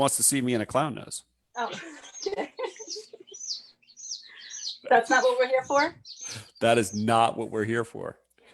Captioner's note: laughs